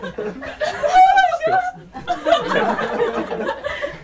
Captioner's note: laughter